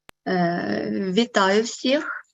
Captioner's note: foreign Language Spoken